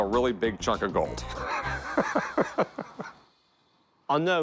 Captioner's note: laughs